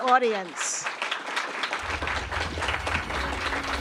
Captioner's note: applause